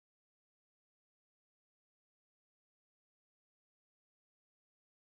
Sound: speaking in foreign language

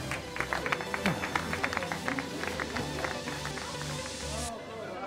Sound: clapping

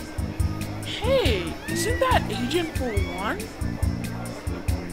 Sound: girl screaming in background

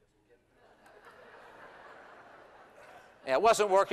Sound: laughter

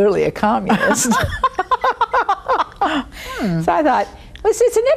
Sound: both laughing

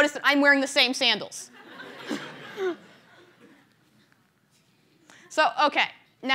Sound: laughter

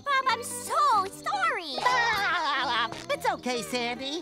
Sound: laughs

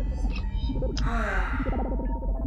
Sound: lonely sigh

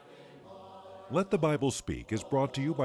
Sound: voiceover

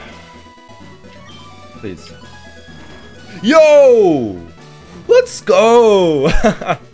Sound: laughs

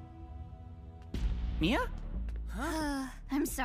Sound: sighing

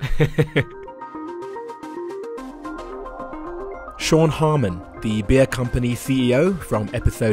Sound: voiceover

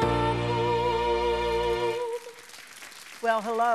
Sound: audience applauds

